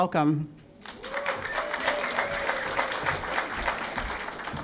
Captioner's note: applause